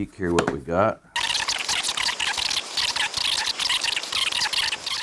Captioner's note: whirring